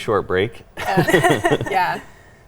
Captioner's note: everyone laughs